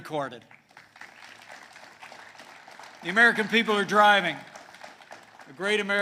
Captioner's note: applause